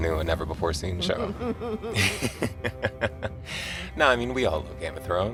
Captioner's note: laughter